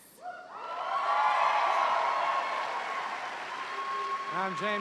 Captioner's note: cheers and applause